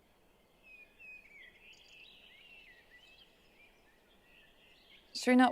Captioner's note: birds chirping